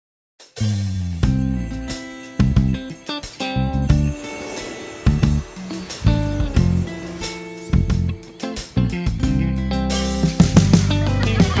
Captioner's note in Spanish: Risas